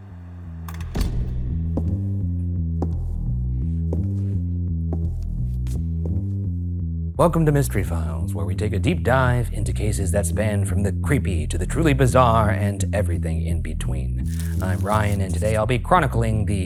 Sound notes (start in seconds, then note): 1.1 shoes clicking